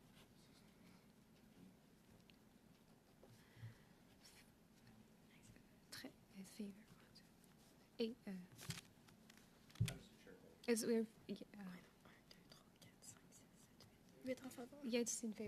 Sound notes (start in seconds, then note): 4.1 speaking French